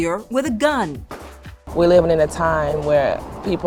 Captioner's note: gun firing